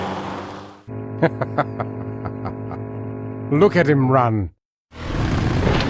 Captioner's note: chuckles